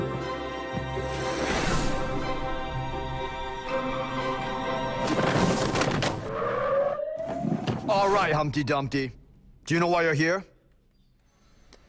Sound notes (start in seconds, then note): 6.3 sirens